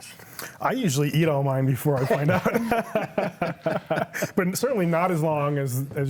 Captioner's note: laughs